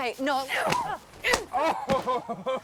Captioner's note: women grunting; Noah laughing